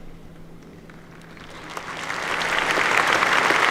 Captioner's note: applause